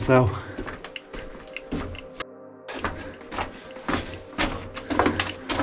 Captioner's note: footsteps thudding